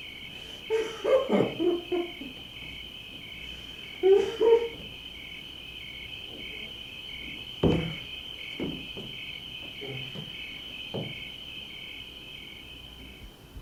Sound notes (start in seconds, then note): 0.0 insects chirping; 0.6 relieved laughing; 4.8 insects chirping; 7.1 stomps; 8.2 insects chirping